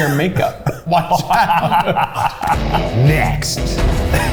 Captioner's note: laughing